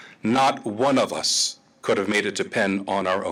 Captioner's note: none